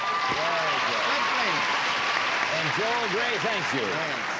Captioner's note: applause